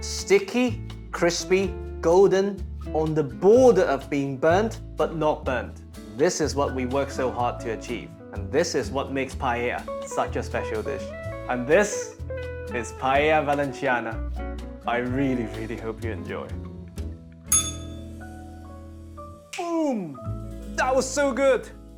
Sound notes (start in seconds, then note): 17.5 bell rings